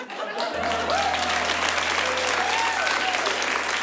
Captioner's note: applause